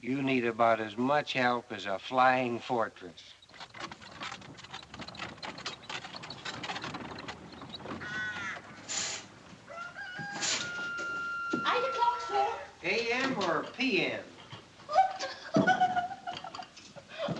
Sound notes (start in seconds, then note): 7.5 crow Squawks; 9.6 rooster Crows; 14.8 giggles